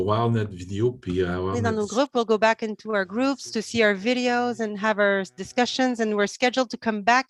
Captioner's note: foreign language